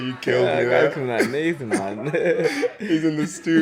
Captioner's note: laughs